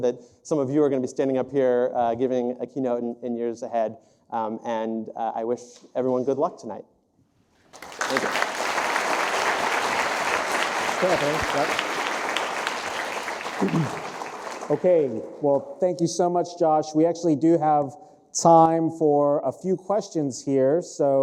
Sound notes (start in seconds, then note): 7.7 applause